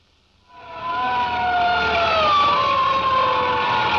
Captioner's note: sirens wailing